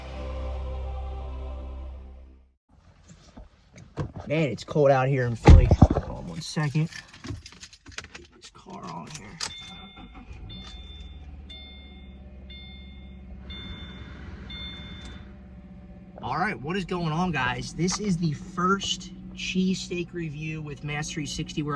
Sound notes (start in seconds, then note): 9.3 seat belt alarm dings